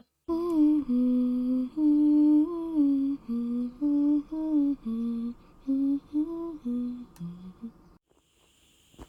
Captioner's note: humming